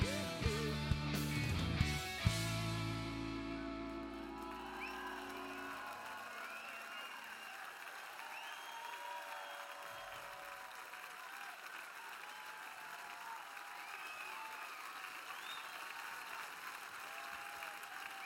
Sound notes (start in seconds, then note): 6.0 cheers and applause